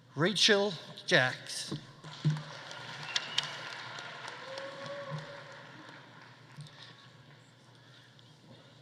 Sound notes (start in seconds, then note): 2.3 audience applauding; 2.4 audience cheering